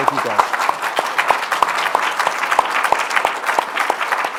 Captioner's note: applause